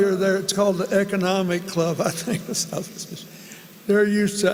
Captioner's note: laughter